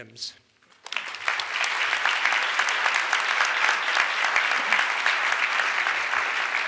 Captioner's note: audience applauds